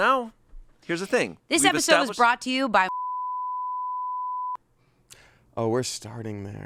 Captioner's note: beep